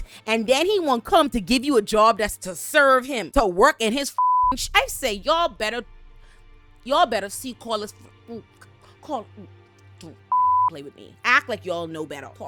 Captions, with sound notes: And then he won't come to give you a job that's to serve him, to work in his (beep) I say y'all better, y'all better see Carlos. Don't (beep) play with me. Act like y'all know better.